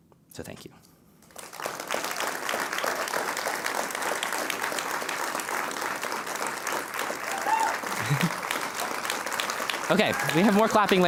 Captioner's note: applause